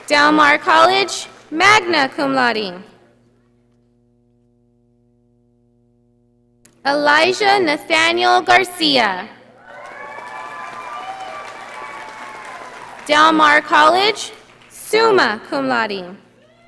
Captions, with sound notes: Delmar College, magna cum laude. Elijah Nathaniel Garcia. (audience applauding) Del Mar College, summa cum laude.